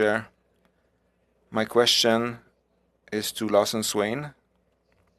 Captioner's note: speaking French